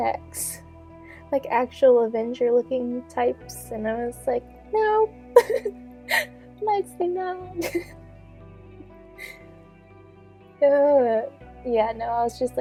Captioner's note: giggling